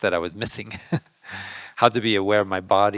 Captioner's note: laughing